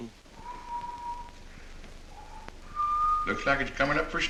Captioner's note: whistling